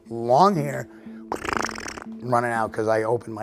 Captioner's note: imitating footsteps